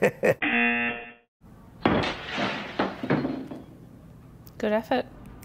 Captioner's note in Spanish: Risas; zumbador; el vidrio se rompe